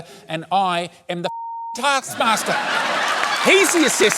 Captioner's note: laughter